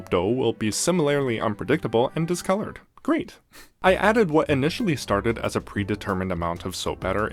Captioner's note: sarcasm